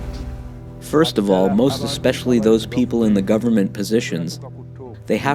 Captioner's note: speaking in Luganda